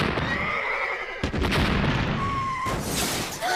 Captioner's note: more loud blasts, bomb whistles though air